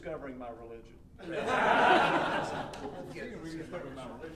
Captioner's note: audience laughing